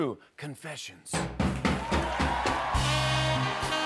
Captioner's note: cheers and applause